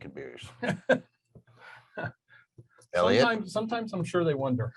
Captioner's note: laughing